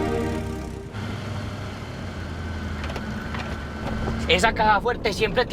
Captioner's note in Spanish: Ruido del vehículo